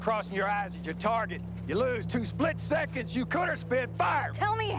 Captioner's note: yelling